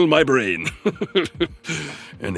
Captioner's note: laughs